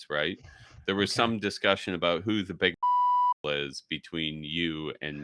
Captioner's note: beep